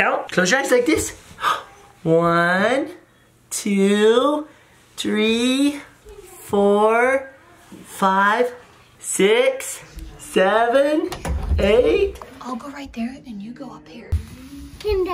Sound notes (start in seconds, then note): 2.0 gasp